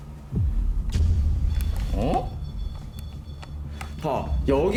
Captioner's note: The sound of the choco-pie